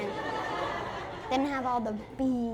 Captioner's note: laughter